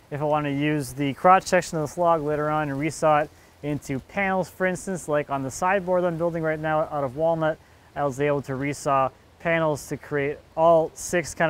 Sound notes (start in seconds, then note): none